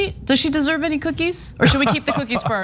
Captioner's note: laugh